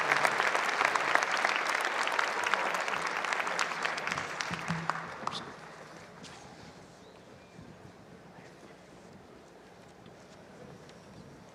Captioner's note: cheers and applause